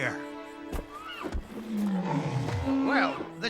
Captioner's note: bellowing